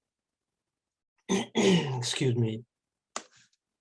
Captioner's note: clears throat